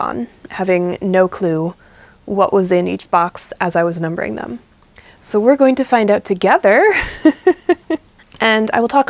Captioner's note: laughs